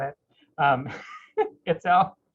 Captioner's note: laughs